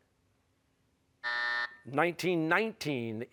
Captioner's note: buzzer